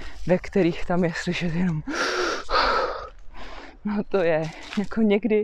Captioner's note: inhale - exhale